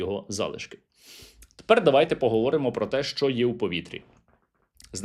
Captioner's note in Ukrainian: сопіння